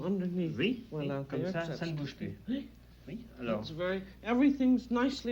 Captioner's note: both conversing in French